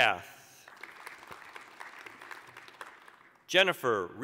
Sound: applause

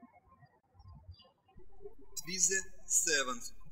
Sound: birds chirping

